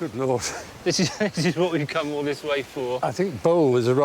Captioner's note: chuckling